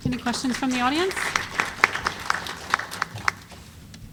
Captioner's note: applause